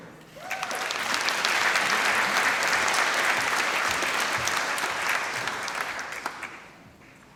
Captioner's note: applause